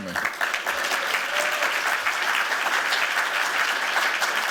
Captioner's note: applause